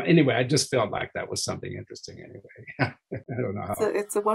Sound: chuckling

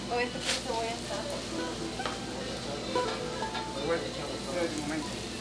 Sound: speaking in foreign language

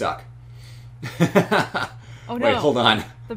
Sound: laughs

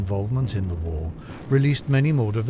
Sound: explosion booms

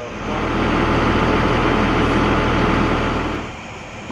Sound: background talking; loud machinery humming; low machinery humming

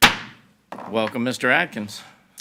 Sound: gavel bangs

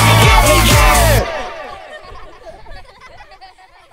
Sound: laughter

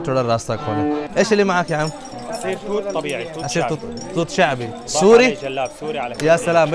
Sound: Arabic

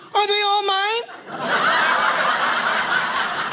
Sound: audience laughing

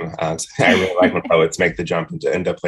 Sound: laughs

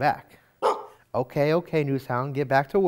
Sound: NewsHound barks

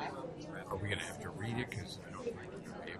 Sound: voiceover

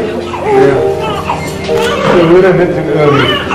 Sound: baby cries

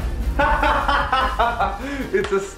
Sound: laughs

